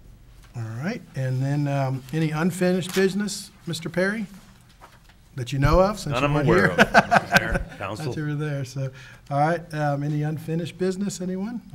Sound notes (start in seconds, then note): 6.2 laughs